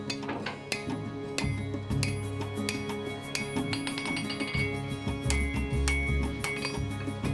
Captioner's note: peaceful music; hammer tapping